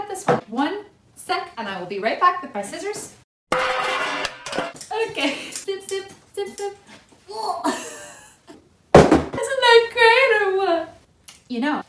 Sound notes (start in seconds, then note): 3.6 crashing sound; 9.0 present crashes